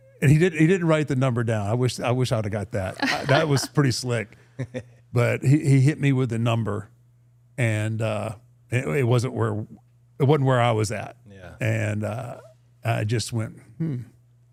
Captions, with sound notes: And he didn't write the number down, I wish I'd have got that. (participant laughing) That was pretty slick. (participant chuckling) But he hit me with the number and it wasn't where I was at. And I just went, "Hmm."